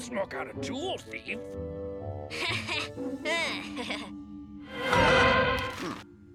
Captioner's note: Milo chuckles awkwardly